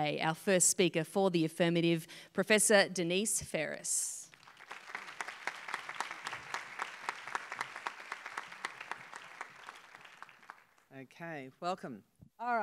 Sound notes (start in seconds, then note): 4.2 applause